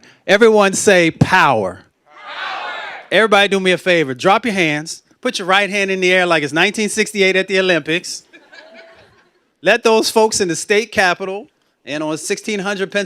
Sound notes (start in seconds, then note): 2.2 shouting